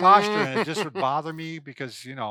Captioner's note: chuckles